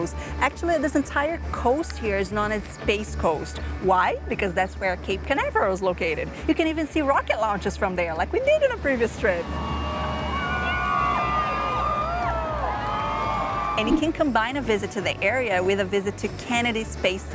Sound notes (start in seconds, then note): 9.3 crowd cheering